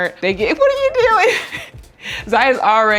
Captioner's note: laughing